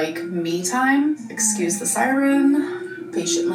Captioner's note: siren blaring distantly